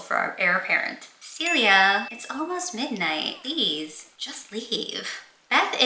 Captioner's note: ding sfx